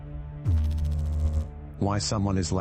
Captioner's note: electrical noise